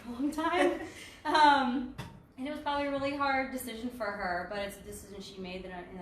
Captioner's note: laughs